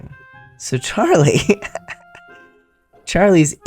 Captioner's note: laugh